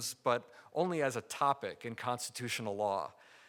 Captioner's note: none